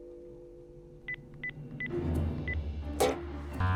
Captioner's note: beeping